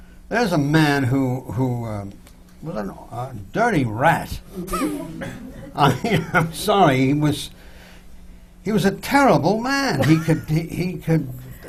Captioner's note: laughs